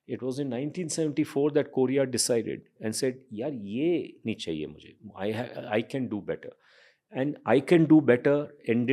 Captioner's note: speaks in Hindi